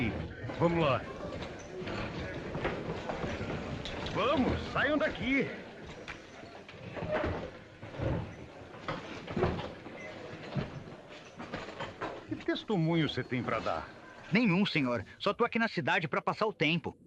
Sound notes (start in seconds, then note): none